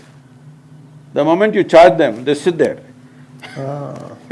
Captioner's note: laughs